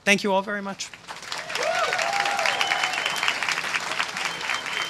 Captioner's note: applause